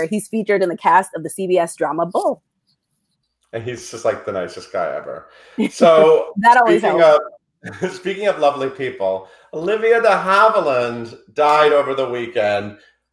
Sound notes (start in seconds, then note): 7.6 chuckles